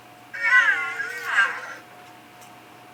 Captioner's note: sad mechanical chirping